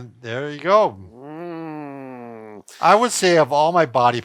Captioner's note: groans